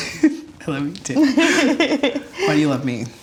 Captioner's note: laughs